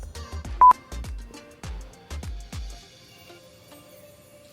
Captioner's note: screen beeps